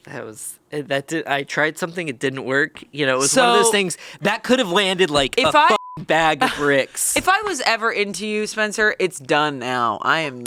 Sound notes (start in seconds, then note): 5.7 beep